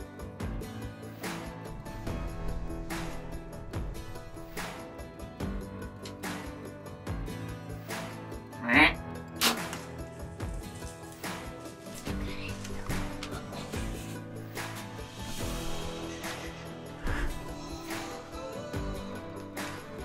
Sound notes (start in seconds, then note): 8.6 deer call grunting; 9.4 crossbow popping